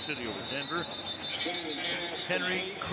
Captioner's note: whistle